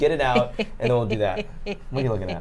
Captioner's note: snickers